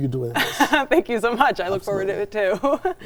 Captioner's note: laughs